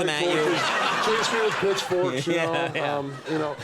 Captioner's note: audience laughs